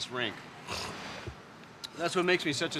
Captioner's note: Hand sniffles